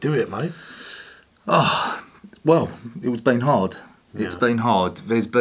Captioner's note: sighs